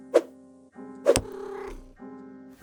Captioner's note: whoosh; cat purrs